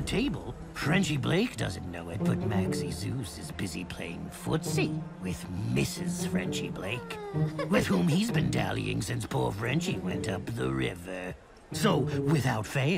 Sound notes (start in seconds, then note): 6.8 woman crying